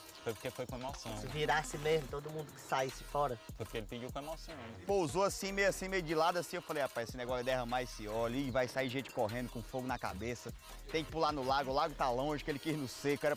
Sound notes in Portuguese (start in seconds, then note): none